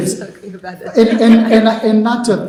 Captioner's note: chuckling